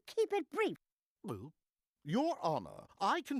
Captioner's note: gulping